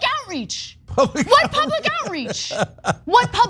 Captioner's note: laugh